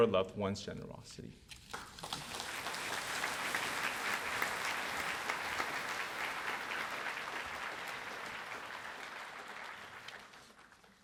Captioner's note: applause